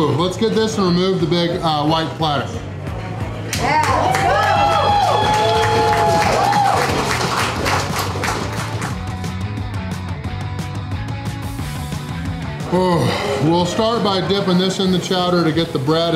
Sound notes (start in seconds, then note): 2.4 crowd; 3.4 clapping and cheering